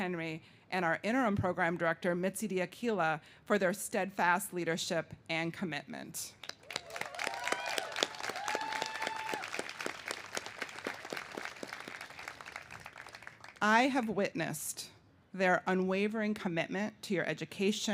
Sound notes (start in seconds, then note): 6.5 cheers and applause